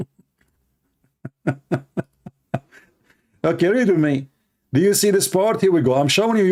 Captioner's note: Ketawa